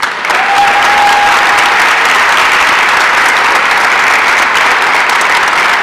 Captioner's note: applause and cheering